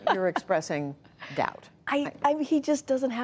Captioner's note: laughter